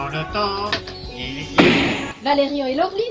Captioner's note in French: Paf